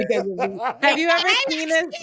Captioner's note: laughing